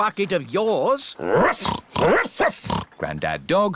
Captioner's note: snorting; barking